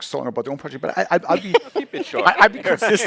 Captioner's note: laughter